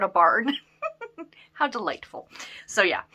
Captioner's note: giggles